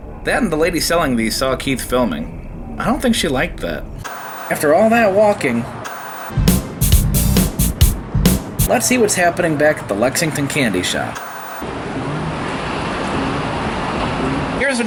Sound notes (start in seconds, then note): 2.8 white noise scratching; 6.2 upbeat percussion music; 10.7 white noise scratching